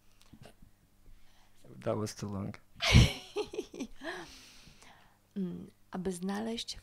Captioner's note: laughs